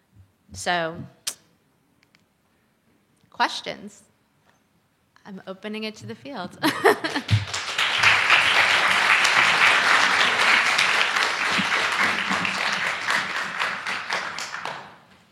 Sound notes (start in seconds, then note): 6.6 chuckles; 7.1 applause